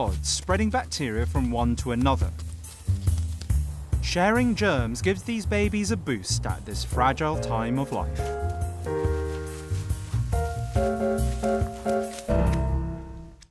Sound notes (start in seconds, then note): 8.5 nibbling on leaves